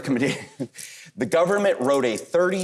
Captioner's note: chuckles